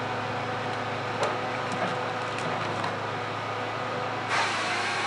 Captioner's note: sounds of the saw and timber crunching